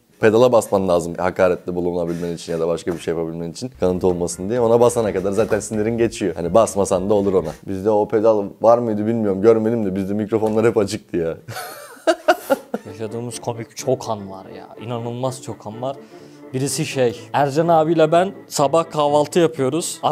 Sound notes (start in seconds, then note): 11.5 laughing